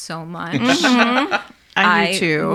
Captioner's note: laughing